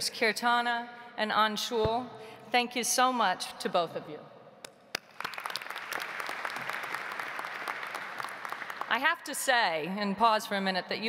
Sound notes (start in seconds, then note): 5.0 audience applauds